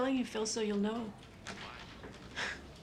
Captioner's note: scoffs